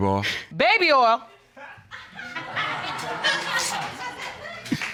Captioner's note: audience laughing